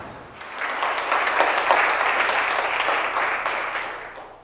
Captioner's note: applause